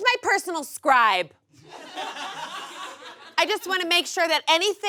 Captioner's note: audience laughs